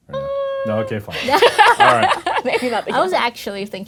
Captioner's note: laughing